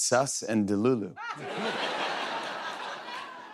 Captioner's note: laughter